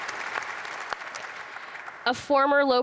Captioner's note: audience applauds